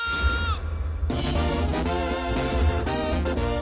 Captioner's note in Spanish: Grito